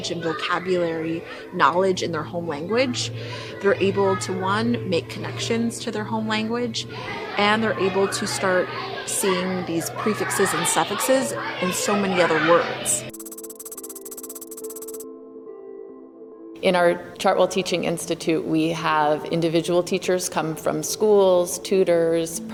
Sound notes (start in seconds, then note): 13.1 keyboard tapping